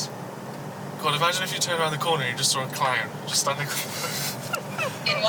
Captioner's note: laughter